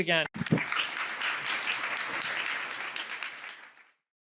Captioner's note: audience applauding